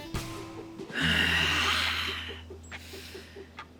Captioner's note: deep sigh